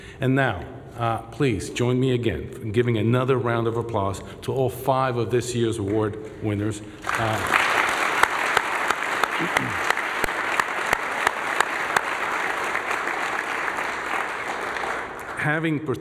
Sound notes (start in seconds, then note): 12.3 applause